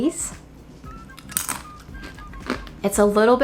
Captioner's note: chip crunching